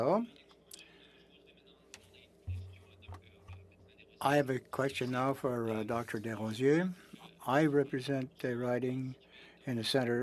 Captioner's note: speaking French